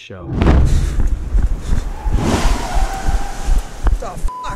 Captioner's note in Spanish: choque